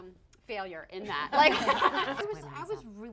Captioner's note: laughing